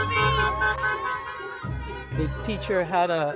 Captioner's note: horns honking